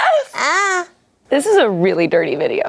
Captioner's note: moans